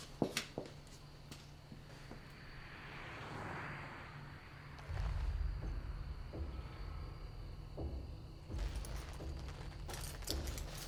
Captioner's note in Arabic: زقزقة الصراصير في الخارج; أصوات طقطقة